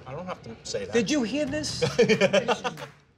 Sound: laughter

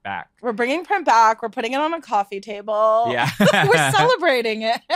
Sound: laughs

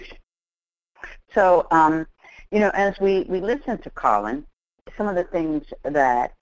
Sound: voiceover

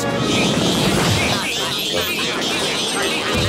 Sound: anchovies screaming

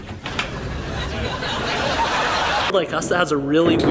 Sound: laughs

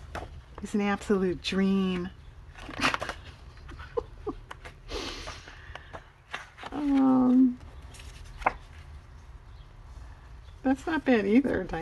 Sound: laughs

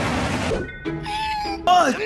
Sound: pathetic squeak

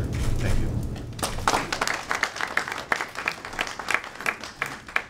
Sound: audience applauding

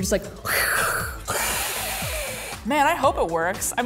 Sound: hissing

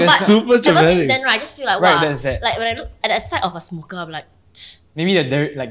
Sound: tsk

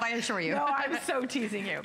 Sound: laughter

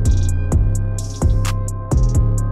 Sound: click

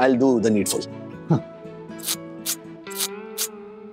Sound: slurping

